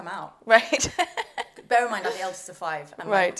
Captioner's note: laugh